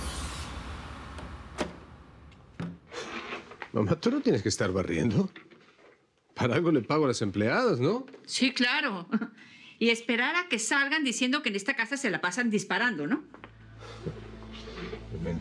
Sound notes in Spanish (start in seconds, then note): 0.0 Sonido al abrir la puerta